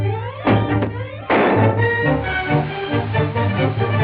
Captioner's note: popping noise